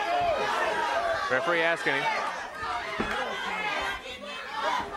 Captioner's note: crowd cheering